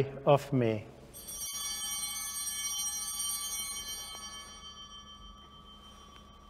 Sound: altar bell ringing

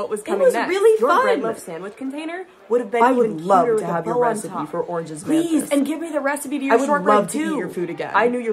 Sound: voices continue overlapping, increasing in number

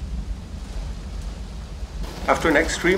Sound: heavy rain drums on windows

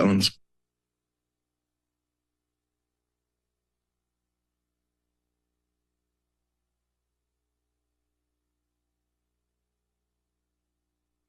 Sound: silence

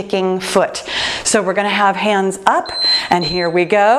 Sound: timer beeping

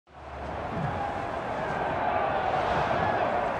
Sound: cheering

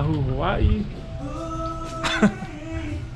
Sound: laughing

